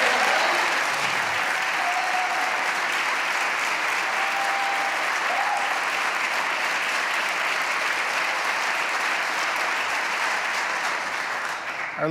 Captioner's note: applause